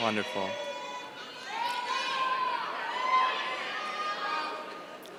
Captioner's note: yelling